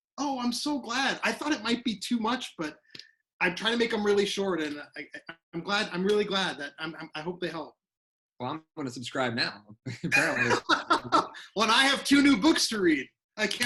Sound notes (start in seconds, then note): 9.8 laughs